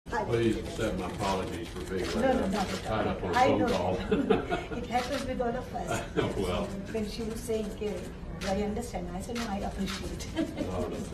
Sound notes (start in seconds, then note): 3.9 laughter; 10.3 laughter